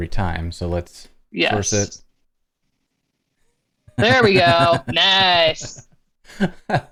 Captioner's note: laughter